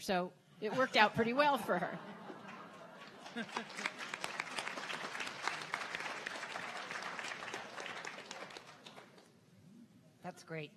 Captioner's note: audience Laughter; clapping